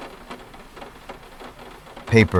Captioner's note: running